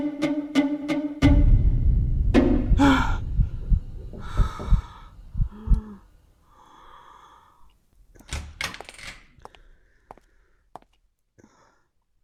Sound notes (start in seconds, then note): 4.0 knocking on the door